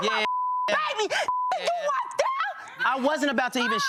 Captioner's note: beep